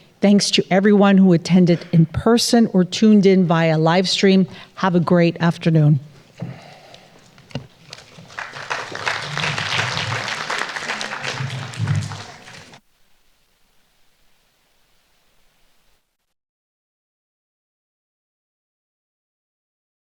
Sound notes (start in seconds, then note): 7.6 everyone applauding